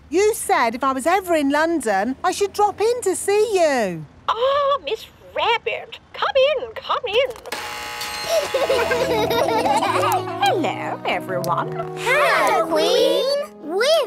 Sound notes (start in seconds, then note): 7.5 gates buzzing; 8.2 kids laughing